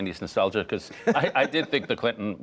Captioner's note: laughter